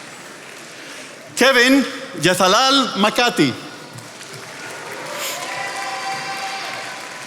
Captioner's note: attendees applauding